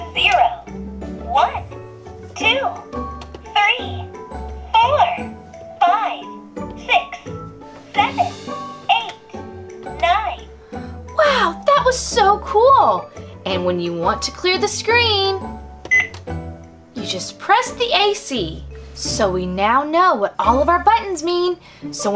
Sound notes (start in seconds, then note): 11.3 voiceover; 15.9 beep